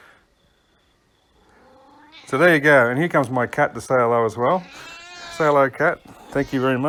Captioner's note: cat meowing